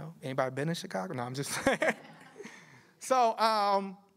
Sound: laughter

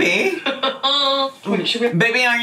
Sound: laughs

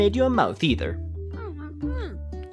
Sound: angry mumbling

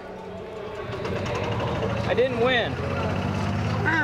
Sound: motor rumbling

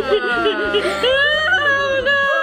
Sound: groans; laughs

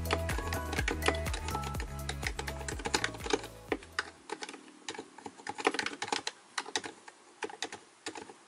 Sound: please enjoy the keystroke sound for a little while

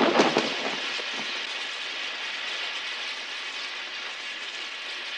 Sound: engine hissing

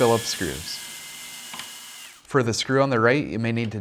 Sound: drilling

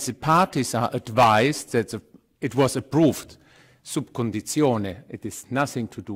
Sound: foreign language

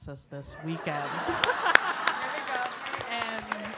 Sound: laugh

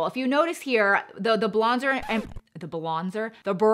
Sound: record scratching

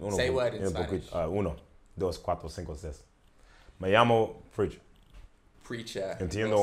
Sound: speaks in Spanish

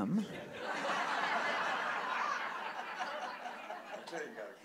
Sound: audience laughing

